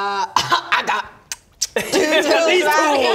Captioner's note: mwah mwah